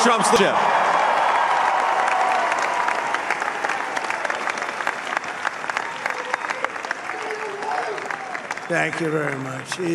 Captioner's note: applause